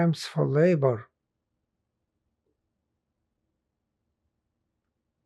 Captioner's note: pauses 8 seconds